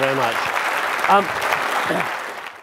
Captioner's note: audience clapping